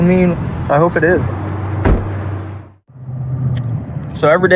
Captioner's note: cr slams